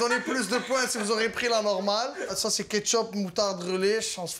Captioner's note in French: rires